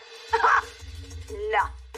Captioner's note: laughs